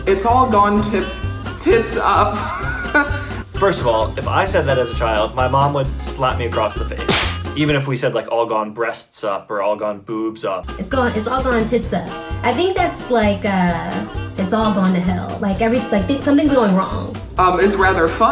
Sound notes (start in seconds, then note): 2.5 laughs